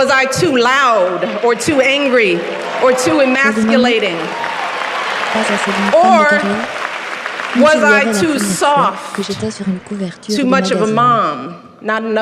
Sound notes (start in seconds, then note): 4.4 audience applauses